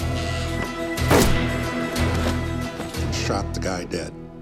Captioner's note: gunshot